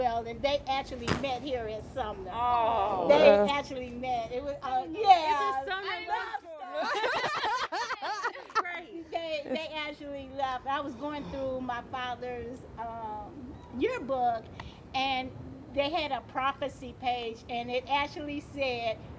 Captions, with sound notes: And they actually met here in Sumner. - Aw. - They actually met. It was a love story. (laughing) This is where they dated. They actually loved. I was going through my father's yearbook, and they had a prophecy page and it actually said,